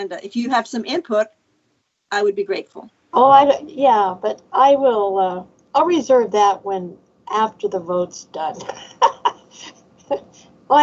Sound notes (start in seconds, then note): 8.6 laughs